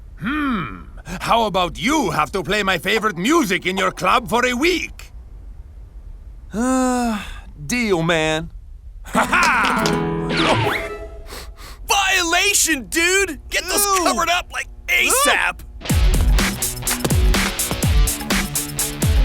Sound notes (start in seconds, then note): 9.7 flamenco music; 11.2 sniffs; 15.8 upbeat rock music